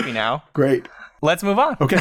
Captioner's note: laughs